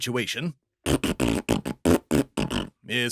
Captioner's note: this fart noise contains a swear